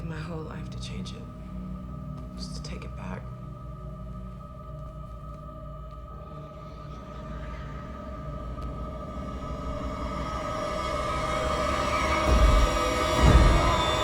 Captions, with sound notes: I'd give my whole life to change it, just to take it back. (foreboding music) (voices whispering) (foreboding music intensifies)